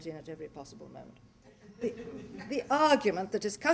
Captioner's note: laughter